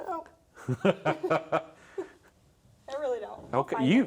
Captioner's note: both chuckle